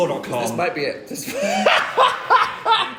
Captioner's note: laughs